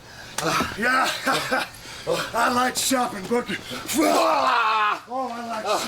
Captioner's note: chuckles